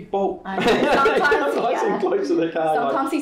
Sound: laughing

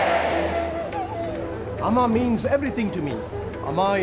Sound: man's voice

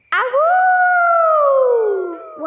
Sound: howling

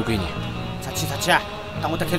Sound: shanghai dialect

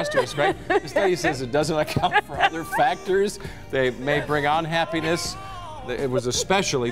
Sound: laughter

